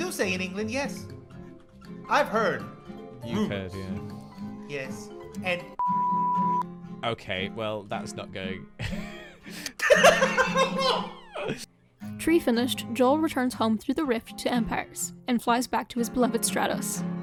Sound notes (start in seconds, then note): 5.8 very loud beep; 8.8 both laugh